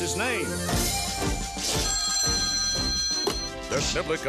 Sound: ring

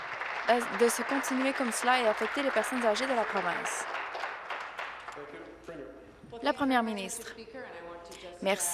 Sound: applause

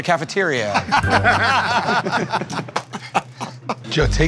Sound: laughter

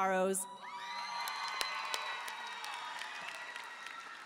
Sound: audience cheering

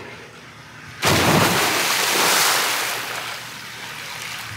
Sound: water splashes

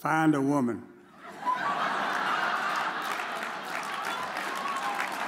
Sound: audience laughs

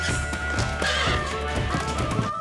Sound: horse neighs

